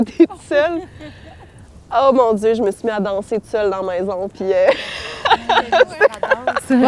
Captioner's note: laughter